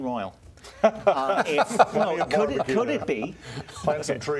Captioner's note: laughter